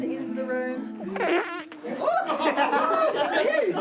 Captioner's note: farting; all chatter, laugh; all laugh